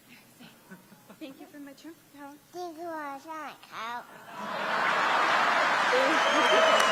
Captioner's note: applause